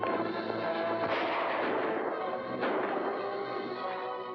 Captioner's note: dramatic music; hooves pounding; gunshots